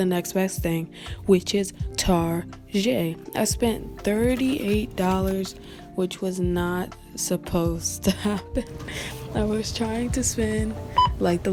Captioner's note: haha